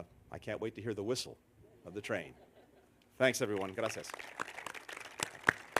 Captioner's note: laughter; applause